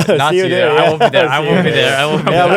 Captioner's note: laughs